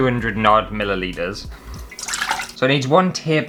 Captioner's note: splash